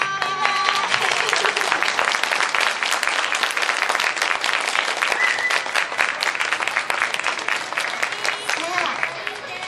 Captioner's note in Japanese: 拍手